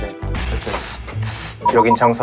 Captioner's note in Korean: 아마도 무전기 소리